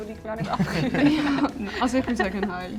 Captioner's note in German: Alle lachen